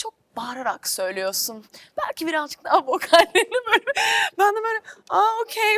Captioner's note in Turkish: kahkaha